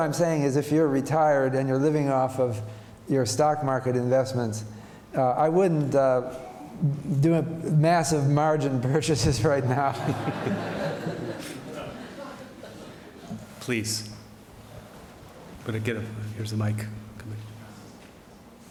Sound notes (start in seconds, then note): 13.5 laughter